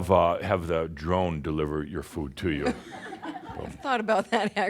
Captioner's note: some chuckles; she chuckles